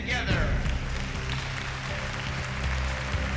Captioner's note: applause